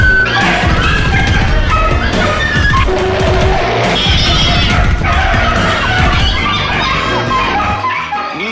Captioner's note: dog & Cats Bark & Meow